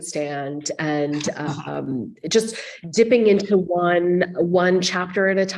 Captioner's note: chuckling